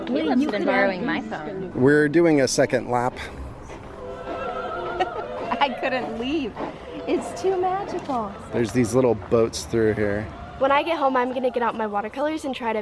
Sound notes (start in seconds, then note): 4.0 laughing